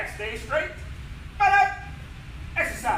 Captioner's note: enthusiastic shout